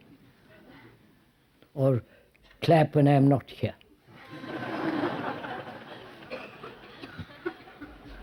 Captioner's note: laughter